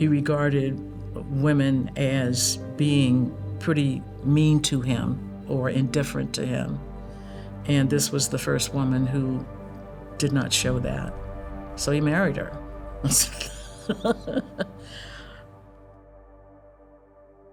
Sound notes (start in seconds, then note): 13.2 laughs